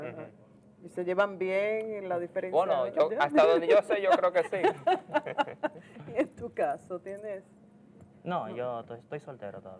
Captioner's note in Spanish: risas